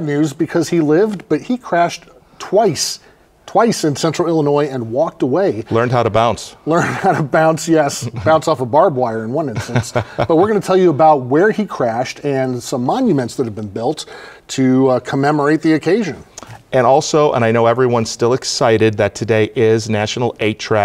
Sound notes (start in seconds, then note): 11.4 laughs